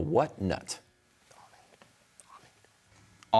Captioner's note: whispering